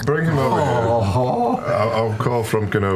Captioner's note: groaning; vomiting